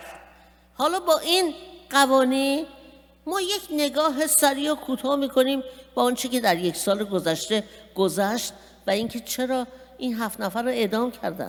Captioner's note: speaking persian